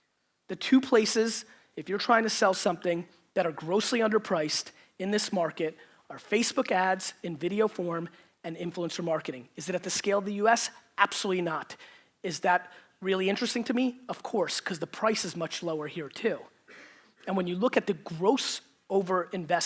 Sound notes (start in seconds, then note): none